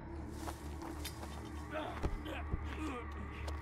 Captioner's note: leaves rustling; grunting